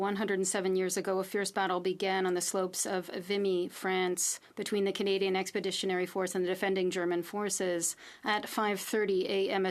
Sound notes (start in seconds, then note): 1.4 speaking French